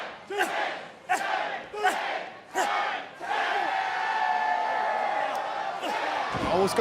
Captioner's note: crowd cheering